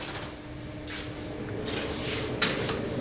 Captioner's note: whirring